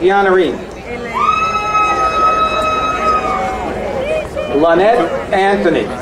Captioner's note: crowd cheering